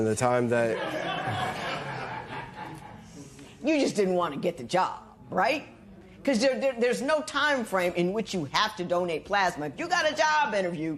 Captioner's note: laughter